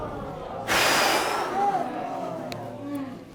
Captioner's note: exhales